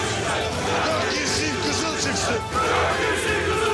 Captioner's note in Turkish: Hep bir ağızdan